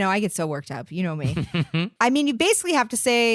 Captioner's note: giggling